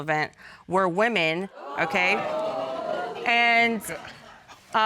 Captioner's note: audience exclaims